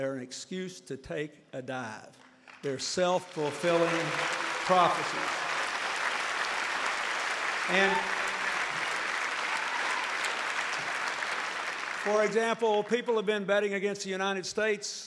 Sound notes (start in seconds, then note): 5.8 applause